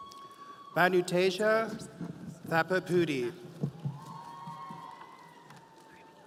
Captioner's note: audience cheering